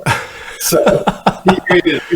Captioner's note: laughter